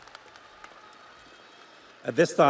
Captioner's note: audience applauds; audience cheers